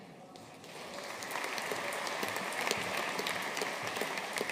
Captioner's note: audience applauding